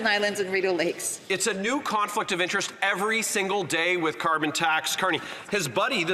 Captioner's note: some Applause